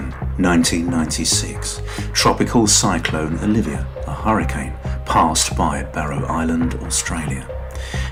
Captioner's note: a hurricane